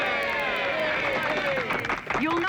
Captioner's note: crowd cheering and clapping